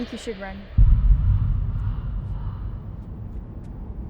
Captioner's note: distant crows